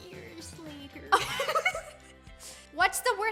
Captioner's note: giggling